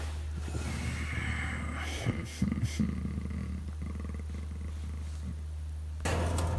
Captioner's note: soft groan